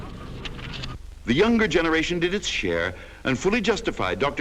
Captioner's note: voiceover